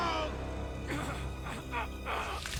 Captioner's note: straining